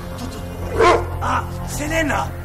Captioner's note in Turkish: köpek havlama sesi̇